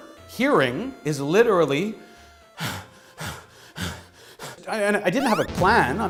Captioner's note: heavy breathing